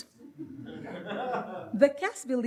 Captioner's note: audience laughs